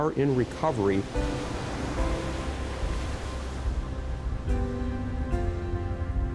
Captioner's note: waves crashing; gentle music